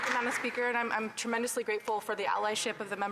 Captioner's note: some Applause